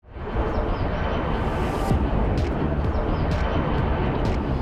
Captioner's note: flight noises